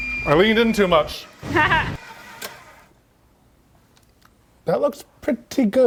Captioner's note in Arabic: تضحك